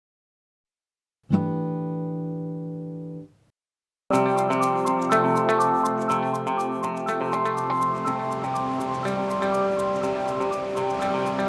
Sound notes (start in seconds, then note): 1.5 chime sounds; 4.1 upbeat music